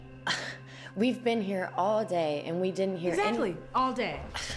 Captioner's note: scoffs